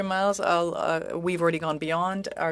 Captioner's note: speaking French